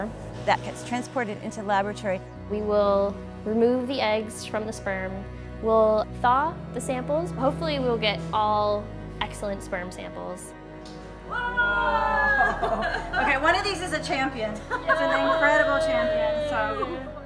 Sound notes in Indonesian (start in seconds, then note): 11.7 laughing